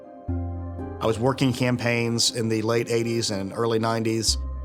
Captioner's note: none